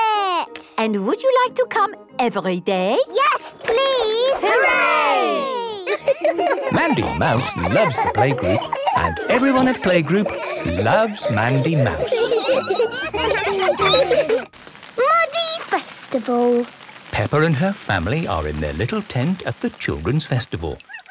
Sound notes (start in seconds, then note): 12.2 laughter; 12.2 squeaking